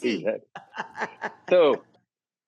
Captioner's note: Rachael laughing